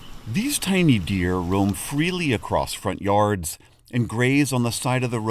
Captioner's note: voice-over